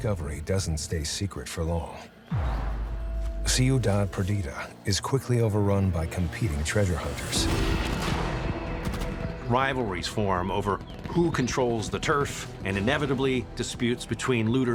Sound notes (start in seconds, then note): 7.5 gunfire blasting